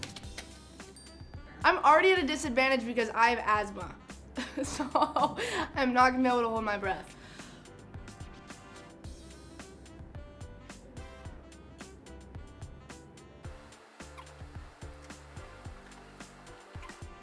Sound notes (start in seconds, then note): 0.9 bell dings; 7.1 inhales; 10.4 playful music